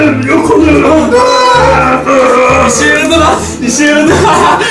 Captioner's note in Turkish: Bağırma sesleri